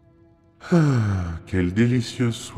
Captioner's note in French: Soupire de contentement